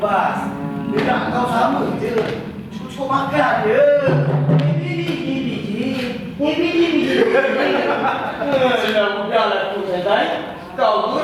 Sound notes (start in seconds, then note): 5.4 mocking sounds